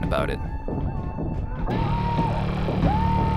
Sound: muffled screaming; intense music

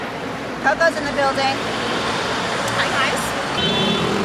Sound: murmurs

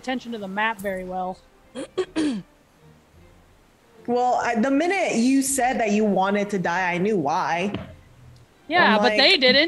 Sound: cough

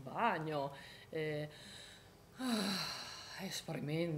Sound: sighing

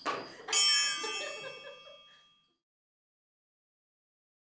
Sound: bells ringing; group laughing

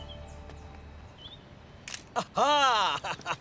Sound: camera shutter

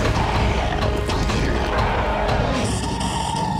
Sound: growling

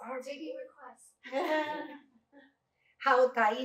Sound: laughter

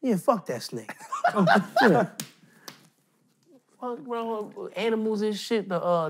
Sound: laughing

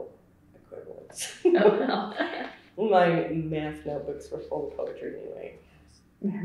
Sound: laughs

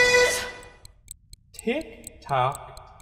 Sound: watch ticking

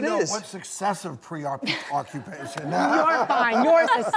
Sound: laughing

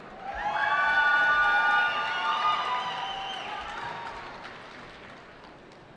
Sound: cheering

